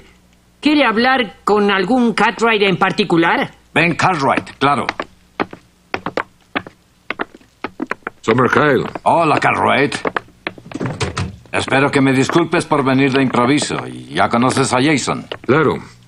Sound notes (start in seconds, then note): 5.1 door closing